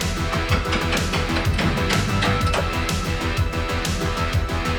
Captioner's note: tool scraping